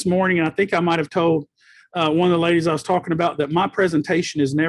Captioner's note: none